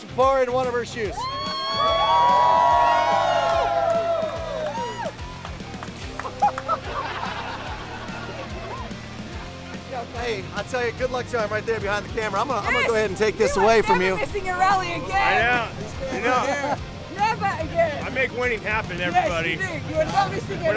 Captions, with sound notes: to pour into one of her shoes? [CHEERING] [LAUGHTER] OK. I'll tell you-- a good luck charm right there, behind the camera. I'm going to go ahead and take this away from you. You are never missing a rally again. Never again. I make winning happen, everybody.